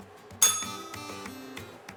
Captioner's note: bell rings